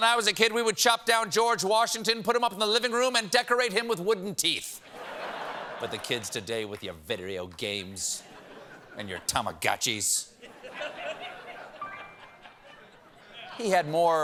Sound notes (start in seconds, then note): 4.8 laughter; 11.8 piano riff